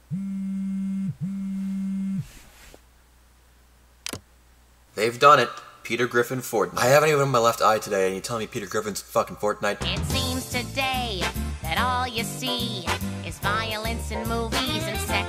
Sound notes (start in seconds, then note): 0.1 vibration; 2.2 bedsheets rustling